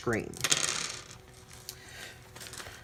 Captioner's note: dice rolling